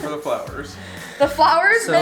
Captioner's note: laughs; male Voice